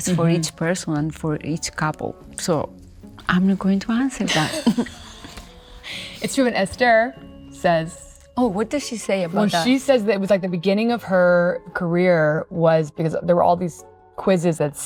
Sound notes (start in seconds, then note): 4.2 both laughing